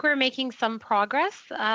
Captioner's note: speaking French